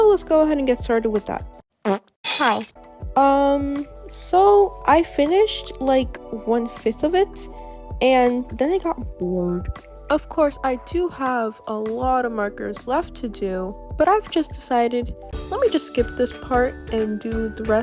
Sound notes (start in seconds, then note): 1.8 fart noise